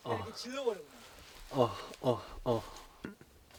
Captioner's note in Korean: 심호흡